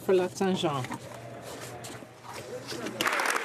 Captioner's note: speaking French